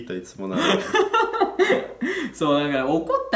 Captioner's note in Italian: risata stalinista